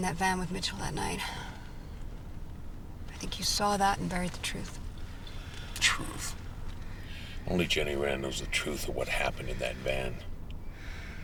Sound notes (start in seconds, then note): none